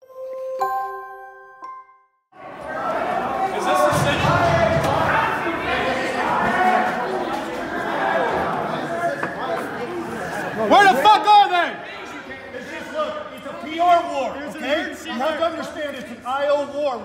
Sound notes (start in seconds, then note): 0.0 gentle music; 4.7 crowd yelling and chattering; 11.6 crowd yelling and talking